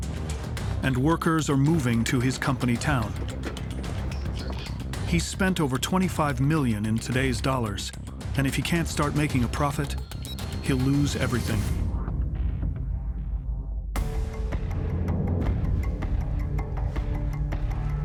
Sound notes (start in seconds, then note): 1.6 workers chatting